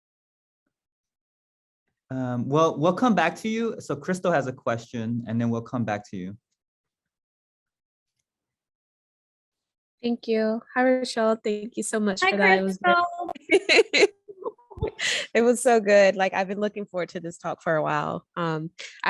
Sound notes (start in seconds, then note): 12.2 laughs